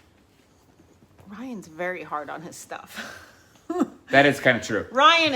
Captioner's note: chuckling